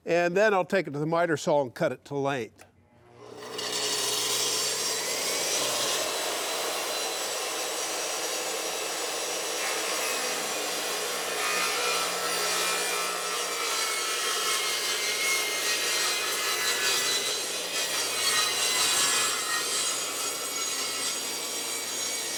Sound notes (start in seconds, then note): 3.6 saw whirring loudly